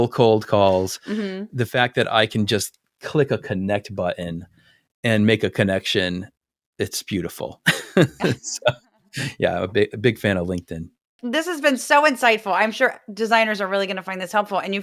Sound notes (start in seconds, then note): 7.6 laugh